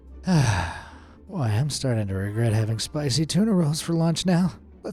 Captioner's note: sighs